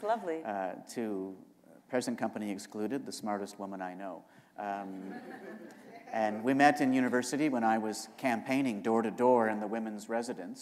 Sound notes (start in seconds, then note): 4.9 laughter